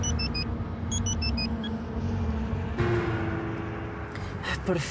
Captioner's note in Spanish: Suena celular